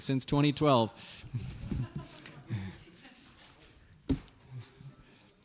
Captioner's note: laughs